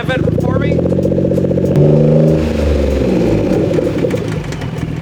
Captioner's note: engine sputtering